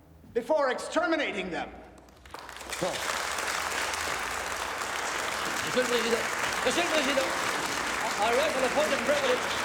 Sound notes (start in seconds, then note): 1.9 members applauding; 6.0 Rene shouting